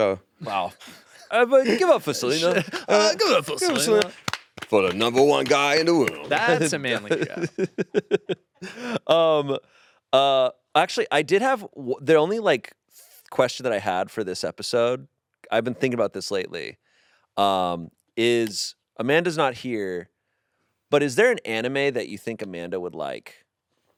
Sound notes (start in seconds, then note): 2.3 clapping; 4.4 all clapping; 7.7 laughs